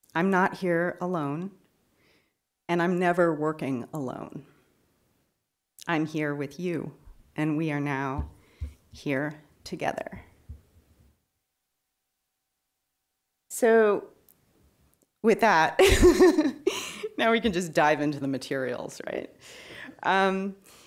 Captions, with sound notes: I'm not here alone, and I'm never working alone. I'm here with you, and we are now here together. So with that, (laughs) now we can just dive into the materials, right?